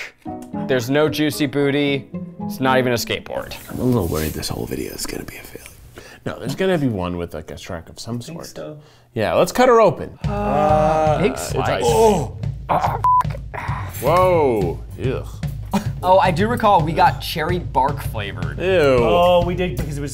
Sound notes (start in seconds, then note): 10.3 all grunting